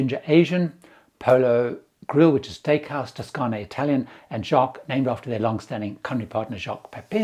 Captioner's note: Italian